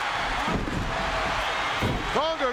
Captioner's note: audience cheering